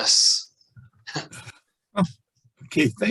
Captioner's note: chuckles